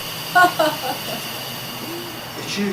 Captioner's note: laughing